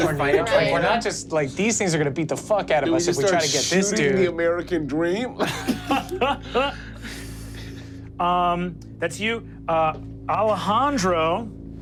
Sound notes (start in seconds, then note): 5.3 laughs